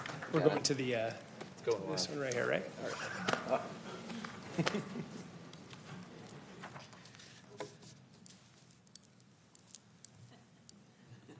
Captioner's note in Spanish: aplausos